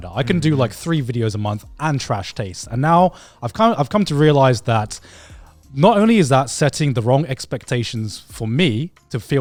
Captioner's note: none